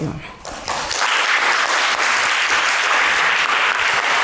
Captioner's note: applause